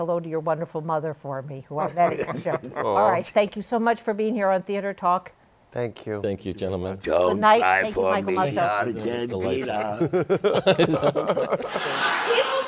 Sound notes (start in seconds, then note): 9.5 laughter